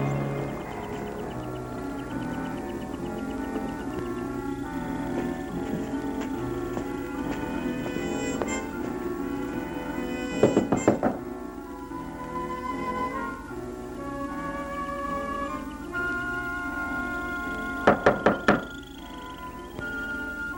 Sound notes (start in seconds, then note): 0.2 suspenseful music; 10.4 knocking; 17.9 knocking